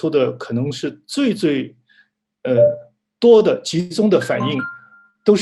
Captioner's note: ringtone in the background